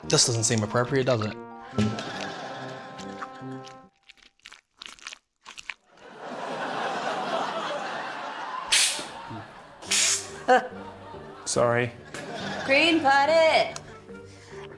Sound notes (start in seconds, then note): 3.0 squelching; 6.0 laughter; 9.8 air hisses